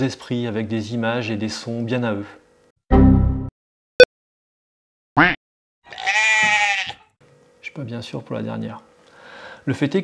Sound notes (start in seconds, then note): 2.7 Blue Screen of Death sound; 3.7 Unix beep; 5.2 duck Quack; 5.8 young sheep Bleating